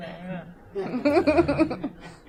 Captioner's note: laughter